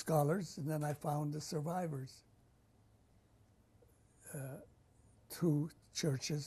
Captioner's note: pauses for 3 seconds